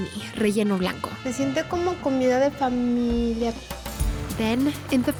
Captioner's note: speaking Spanish